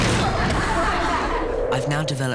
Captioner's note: students laugh